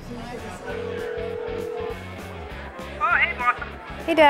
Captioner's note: pub: pop music & noisy conversation and cell-phone tone